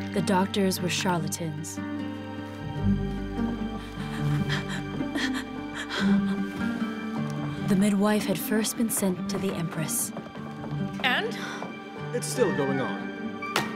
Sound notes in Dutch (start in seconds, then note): 3.8 Catherine hijgt; 13.5 voet stampt